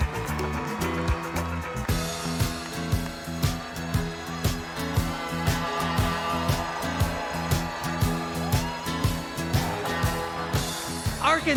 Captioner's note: cheers and applause